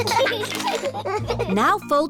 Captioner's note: both giggling